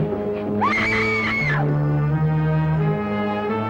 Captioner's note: Eileen screams; sinister music